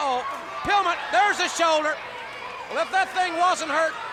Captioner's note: body thudding